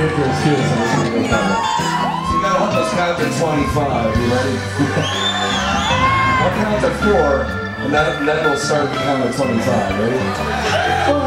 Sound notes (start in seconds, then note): 4.7 chuckles; 5.3 audience cheering; 8.4 audience cheers